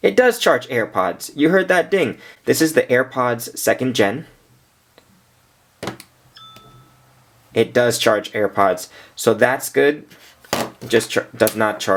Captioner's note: ding